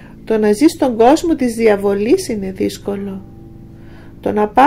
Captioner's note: distortion